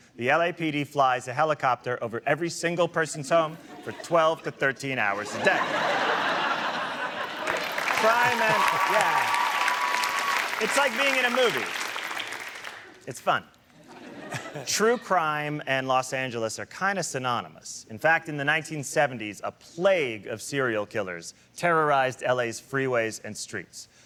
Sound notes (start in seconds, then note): 5.2 laughter; 6.7 audience cheering and applauding